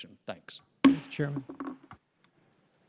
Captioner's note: gavel slamming